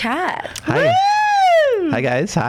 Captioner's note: exciting scream